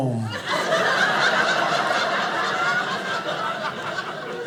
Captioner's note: audience laughing